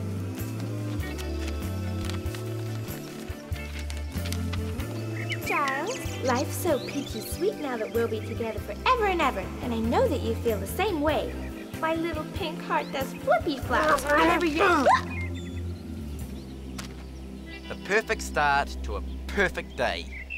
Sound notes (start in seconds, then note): 14.9 squeals